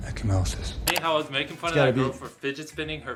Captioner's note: none